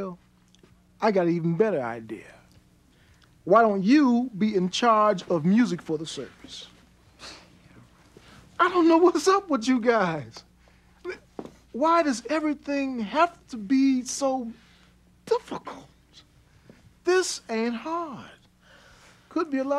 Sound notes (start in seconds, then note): 7.9 Phil scoffs